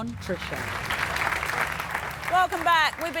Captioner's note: clapping